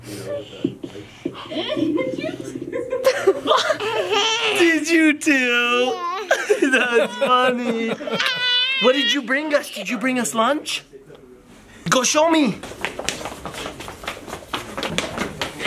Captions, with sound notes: - [Woman's Voice] Did you toot? (laughing) - Did you toot? That's funny. What did you bring us? Did you bring us lunch? Go show me.